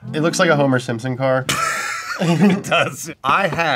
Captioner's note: laughs